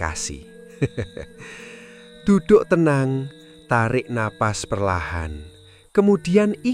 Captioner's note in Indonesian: tertawa